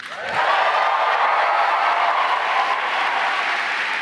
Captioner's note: applause